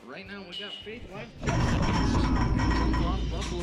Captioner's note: commentator drowned by metal ringing